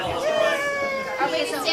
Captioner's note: all chattering